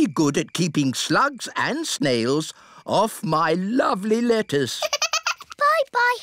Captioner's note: giggles